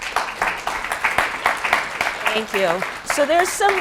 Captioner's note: applause